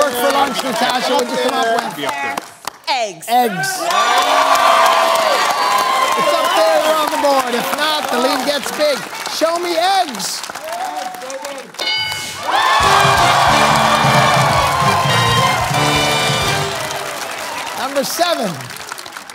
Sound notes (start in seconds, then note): 6.5 cheering; 11.8 bell dings; 14.3 cheering/applause